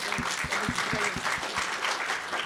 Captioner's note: applause